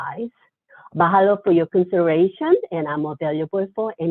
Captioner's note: speaks foreign language